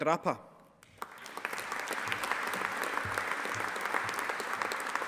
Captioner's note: audience applauding